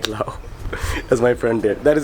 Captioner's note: laughs